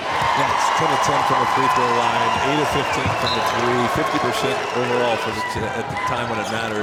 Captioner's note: crowd cheering